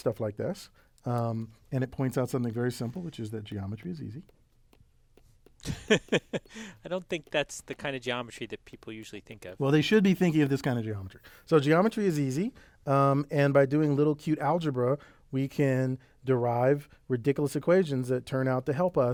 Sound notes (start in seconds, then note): 5.6 laugh